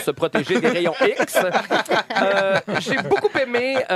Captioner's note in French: rires